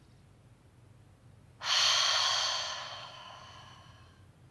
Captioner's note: exhale